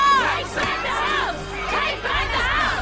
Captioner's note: crowd